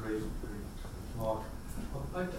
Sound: voice trailing off

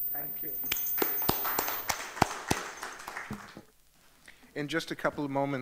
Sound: audience clapping

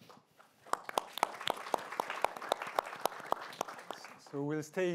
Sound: applause

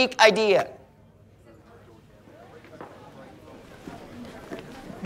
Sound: crowd muttering

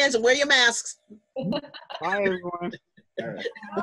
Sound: laughing

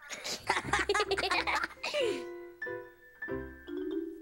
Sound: giggles

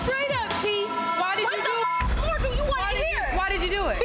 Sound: beep

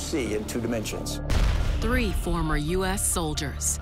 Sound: explosion

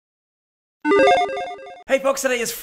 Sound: logo beeping

